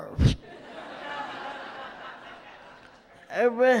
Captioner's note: audience laughs